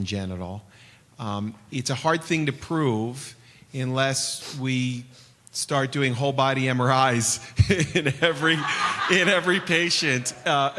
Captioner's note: laughter